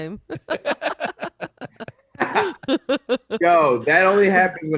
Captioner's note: all laughing